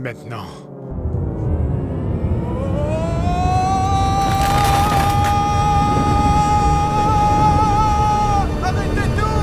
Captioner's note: loud rumble